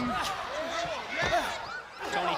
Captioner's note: crowd chatter